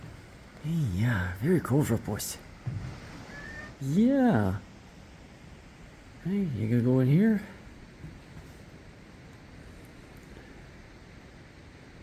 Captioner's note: cat- meow!